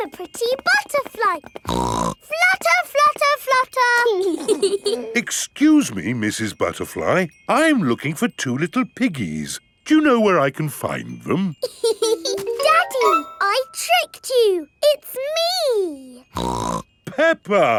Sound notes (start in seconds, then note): 1.6 snorts; 4.2 both giggling; 11.7 laughs; 16.3 snorts